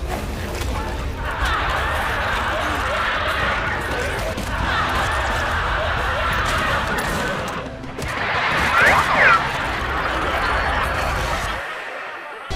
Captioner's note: laughter and wacky noises over trailer